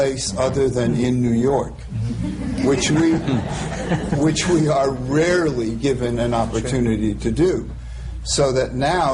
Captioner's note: laughter